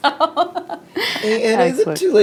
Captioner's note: laughing